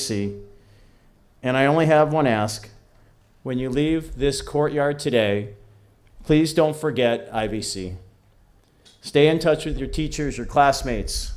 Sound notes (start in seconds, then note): none